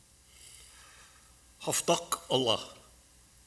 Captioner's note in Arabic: بالعربية